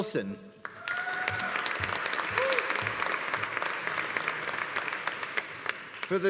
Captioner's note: audience applauding; audience cheering